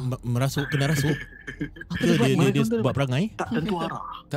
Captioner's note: scary giggle